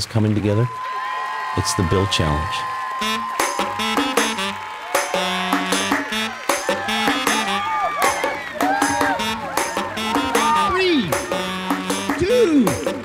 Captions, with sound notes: coming together, it's the build challenge. (energetic music) (students cheering) Three, two,